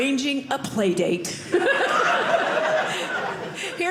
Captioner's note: audience laughing